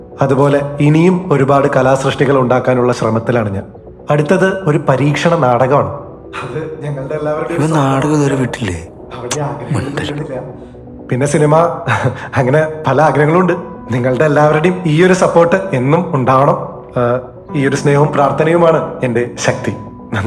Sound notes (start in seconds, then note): 13.0 chuckles